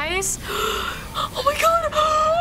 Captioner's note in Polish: wdech; wdech z piskiem